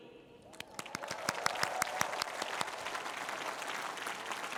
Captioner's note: cheering